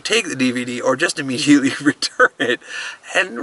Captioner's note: laughs